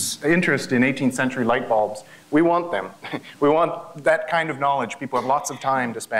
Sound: laugh

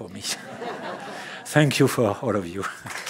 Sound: laughter

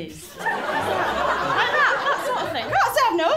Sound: laughter

